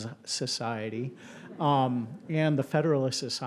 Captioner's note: attendees laughing